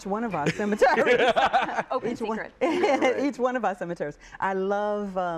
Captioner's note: laughter